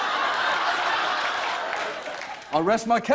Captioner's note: laughter; applause